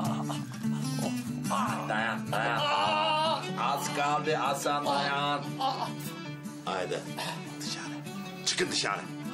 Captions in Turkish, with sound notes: Dayan dayan. (Bağırıyor.) Az kaldı Hasan, dayan. Haydi dışarı, çıkın dışarı.